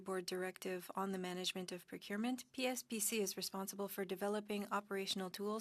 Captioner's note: speaking French